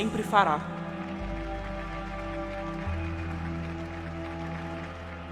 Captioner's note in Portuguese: aplausos